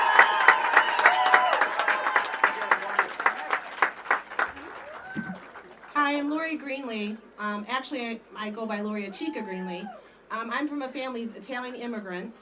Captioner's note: applause